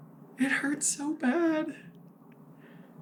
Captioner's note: sad lil voice